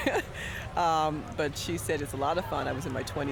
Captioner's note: chuckling